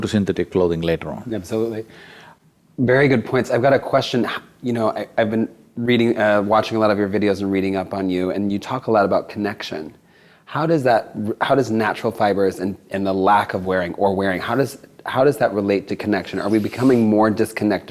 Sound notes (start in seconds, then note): none